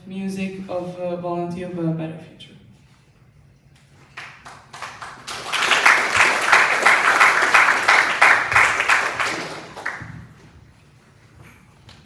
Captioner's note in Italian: Applauso